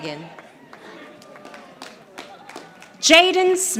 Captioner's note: audience applauding